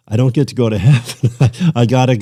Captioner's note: laughter